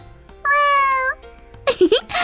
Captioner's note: Joy meows